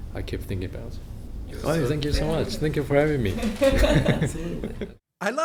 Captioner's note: laughter